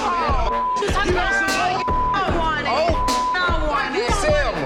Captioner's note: group chattering